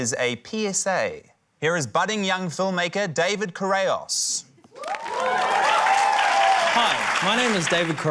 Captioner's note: cheering, applause